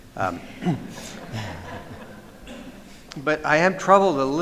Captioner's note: laughter